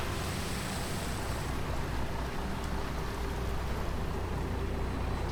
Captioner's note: boat engine sputters